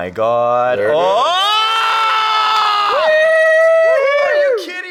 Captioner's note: men yelling